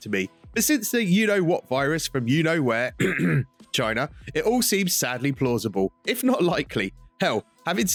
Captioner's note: cough